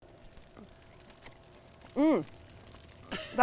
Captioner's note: fire crackling